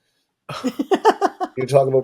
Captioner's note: laughing